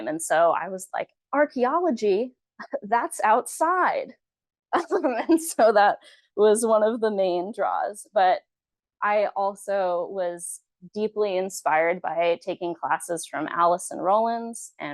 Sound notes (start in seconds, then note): 4.7 chuckles